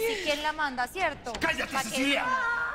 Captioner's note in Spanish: Quejidos